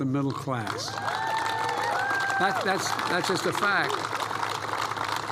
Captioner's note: applause